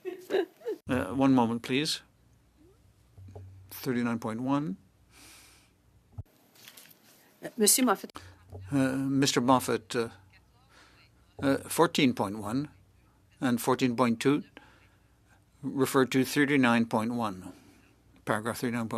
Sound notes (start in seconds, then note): 7.2 speaking French